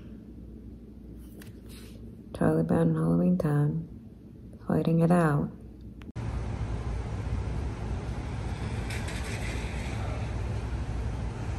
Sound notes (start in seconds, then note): none